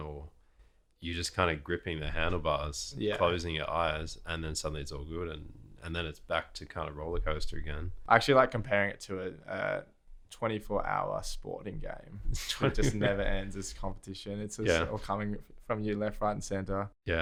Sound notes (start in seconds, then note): 12.3 laughter